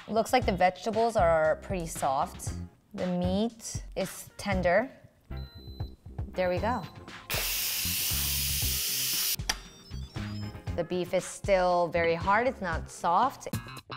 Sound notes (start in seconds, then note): 7.3 Instant Pot beeps; 7.3 loud steam releases; 13.1 upbeat music